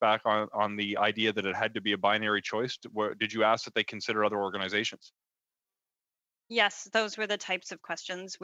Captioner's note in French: voix de l'interprète